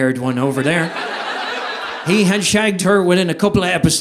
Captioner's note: audience laughing